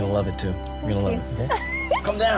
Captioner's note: laughs